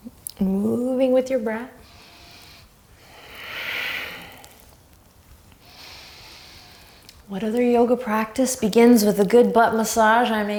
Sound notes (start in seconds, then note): 1.8 deep breathing